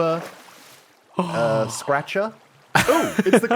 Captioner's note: gasps